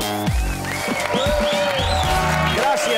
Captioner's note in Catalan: aplaudiments